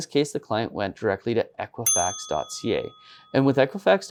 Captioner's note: bell dinging